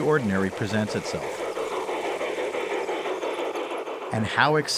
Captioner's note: train chugging